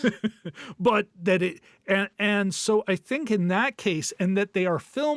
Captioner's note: laughing